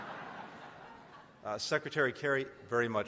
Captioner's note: laughter